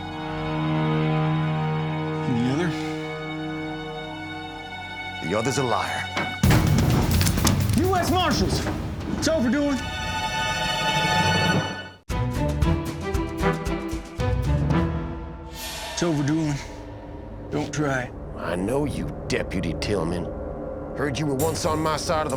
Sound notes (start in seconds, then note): 0.2 tense music; 4.2 tense music; 6.6 cocks gun